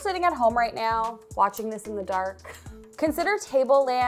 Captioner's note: chuckles